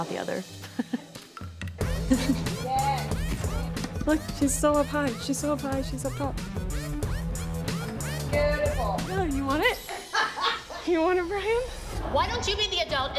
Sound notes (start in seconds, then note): 0.3 chuckles; 1.5 upbeat music plays; 9.3 woman laughs